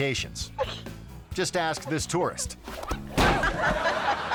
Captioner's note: tourist slamming; audience laughing; friend laughing